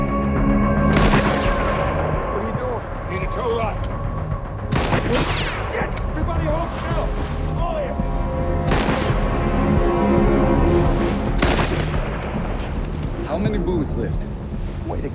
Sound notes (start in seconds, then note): 0.3 pensive music; 0.9 shot firing; 4.7 shot firing; 4.7 bullet whizzing; 8.4 pensive music; 8.4 shots firing